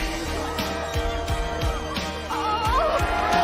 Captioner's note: group cheering; upbeat music